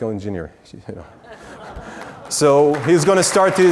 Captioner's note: audience laughs